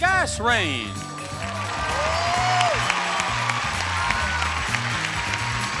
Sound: audience applauding

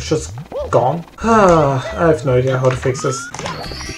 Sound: sighs

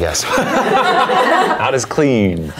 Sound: everyone laughs

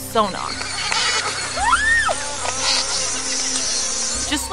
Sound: instrumental background music; toothed whale echolocation vocalizations

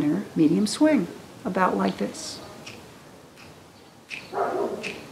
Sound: snap, snap, snap

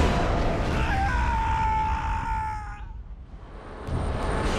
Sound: scream

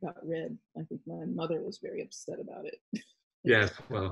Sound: laughs

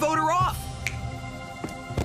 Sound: Chris Snapping Fingers

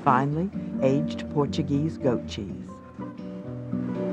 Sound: voiceover

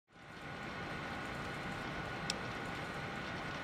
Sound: whirring of computers

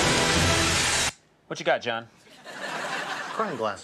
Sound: audience laughs

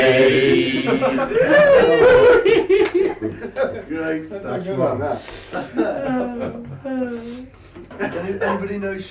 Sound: laughter

